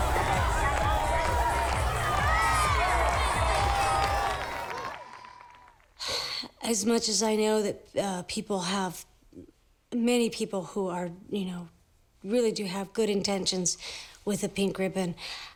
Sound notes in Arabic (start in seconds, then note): 6.0 تنهد